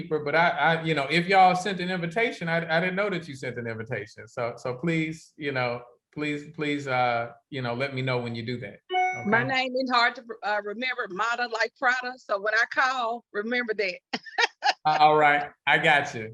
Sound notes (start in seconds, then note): 14.1 laughs